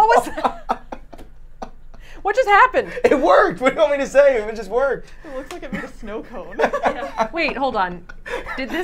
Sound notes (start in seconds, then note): 6.8 all laughing